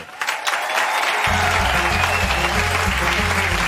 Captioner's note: applause